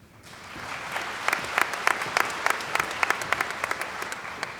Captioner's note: applause